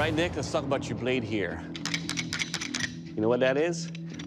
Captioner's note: rattles